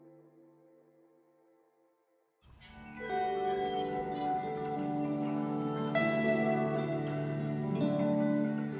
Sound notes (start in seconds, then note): 2.5 birds chirp; 4.6 serene music